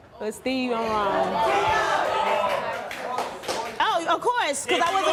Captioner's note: audience jeering